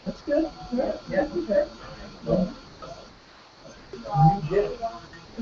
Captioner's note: laugh